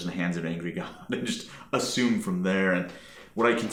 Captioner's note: chuckling